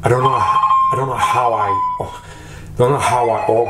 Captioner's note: phone ringing